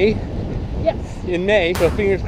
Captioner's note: hand clap